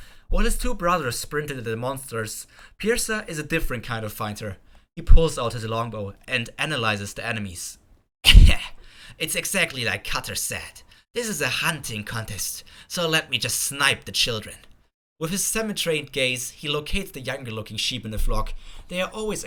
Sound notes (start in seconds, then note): 8.7 laugh